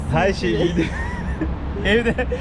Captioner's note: laughs